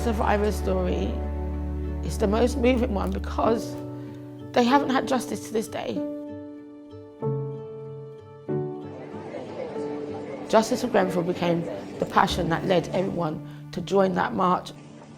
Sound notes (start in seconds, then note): 6.4 soft music; 8.8 crowd speaking